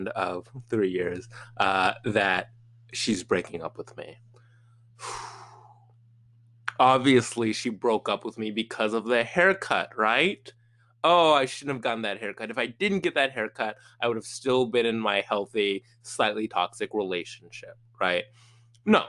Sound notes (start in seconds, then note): 4.9 exhales sharply